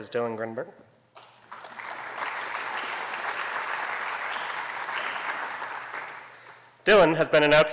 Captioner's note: applause